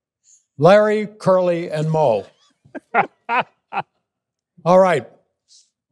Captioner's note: laughing